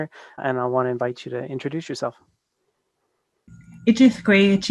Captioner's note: speaks in Native tongue>followed by English translation